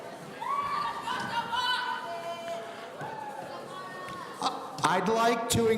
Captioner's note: audience cheering